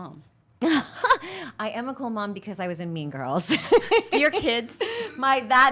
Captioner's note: laughs